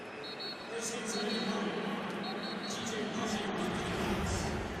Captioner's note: pa announcement